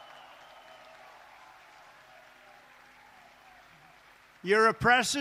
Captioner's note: applause